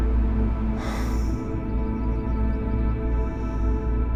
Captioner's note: Cain sighing